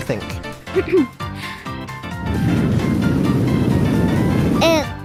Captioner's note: clears her throat and blows into the microphone